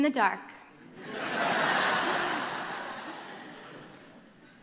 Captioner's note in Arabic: ضحك